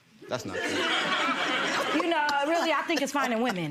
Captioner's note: audience laughing